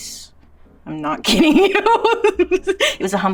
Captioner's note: laughs